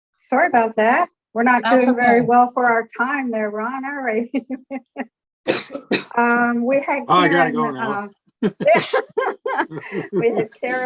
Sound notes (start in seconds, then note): 4.6 giggling; 5.4 coughing; 8.4 laughing